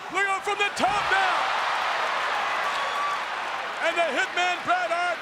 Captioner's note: audience cheering